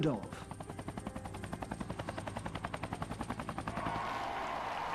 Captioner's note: helicopter blades whir; cheering